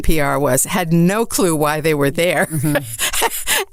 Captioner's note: laughs